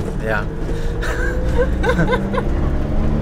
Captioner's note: laughs